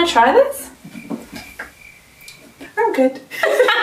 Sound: crickets chirping; laughing

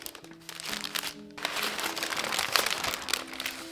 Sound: paper crackles

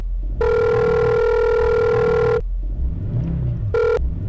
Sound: phone rings

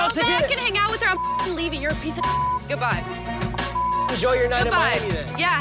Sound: beep

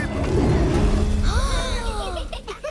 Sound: gasps; Sema and MB laughing

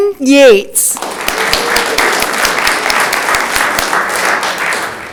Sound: audience clapping

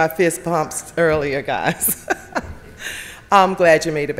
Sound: chuckles

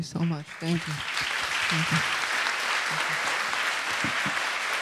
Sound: audience applauds

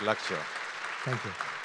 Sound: audience applauding

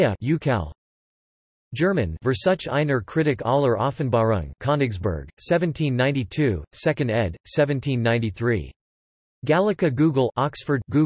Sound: German

